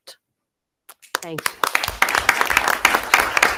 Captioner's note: audience applauding